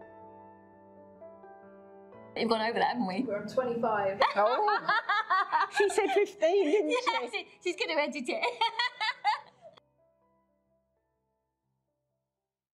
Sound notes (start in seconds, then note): 8.4 laughs